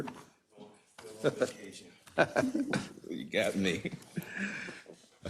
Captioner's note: laugh